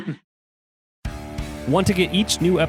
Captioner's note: laughs